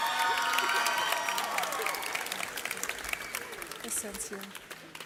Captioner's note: audience cheers